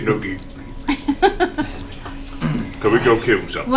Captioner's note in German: lacht